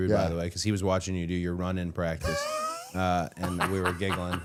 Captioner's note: Matt laughing